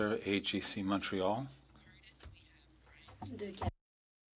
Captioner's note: speaking French